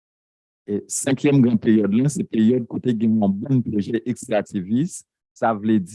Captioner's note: speaking a foreign language